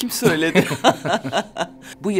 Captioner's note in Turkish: Gülüyorlar